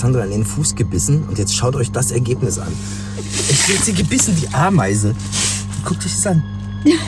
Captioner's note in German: schnauben